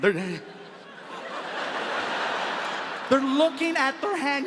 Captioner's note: audience laughs